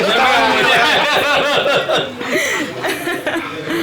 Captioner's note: laughs